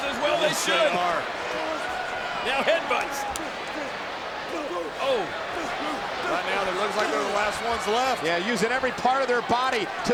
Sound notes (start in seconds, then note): 4.5 Cody and Dean grunting